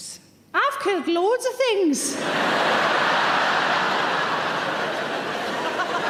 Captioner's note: audience laughing